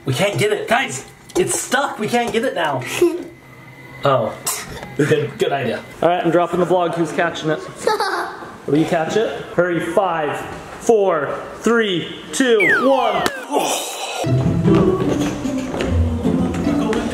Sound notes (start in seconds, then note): 2.9 giggles; 7.8 laughs; 12.5 audio whistles; 13.5 sighs; 14.3 graceful music